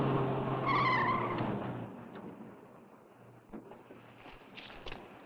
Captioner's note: tires screeching